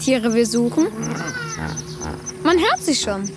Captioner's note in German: Grunzen